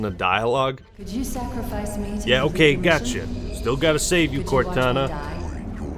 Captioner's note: Cortana talks in the background